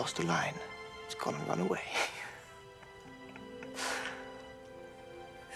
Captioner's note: laughing